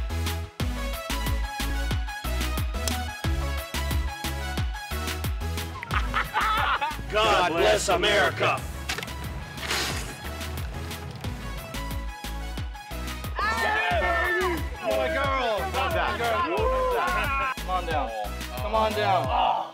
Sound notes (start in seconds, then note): 5.8 laughs; 13.3 all cheering